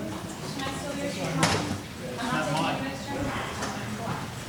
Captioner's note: audience murmuring